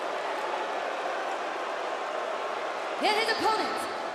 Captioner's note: crowd cheering